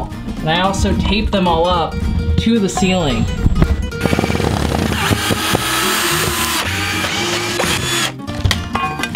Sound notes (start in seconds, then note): 4.0 drilling machine humming